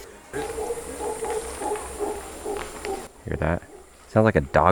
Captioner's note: howler monkeys